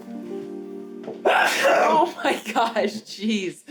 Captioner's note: sneezing